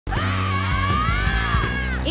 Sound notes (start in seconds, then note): 0.0 rock music plays; 0.1 women screaming